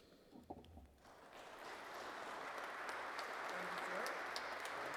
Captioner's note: audience clapping